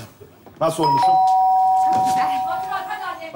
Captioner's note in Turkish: Zil çalar